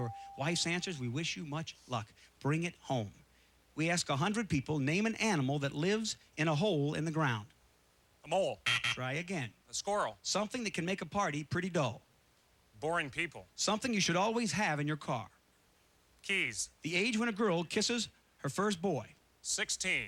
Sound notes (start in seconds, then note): 8.6 buzzer